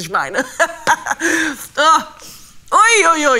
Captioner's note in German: lacht